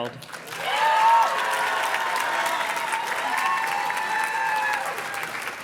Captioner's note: audience cheers and claps